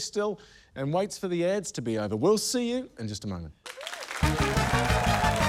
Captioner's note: cheering, applause; upbeat fanfare